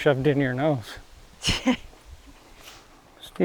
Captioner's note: laughs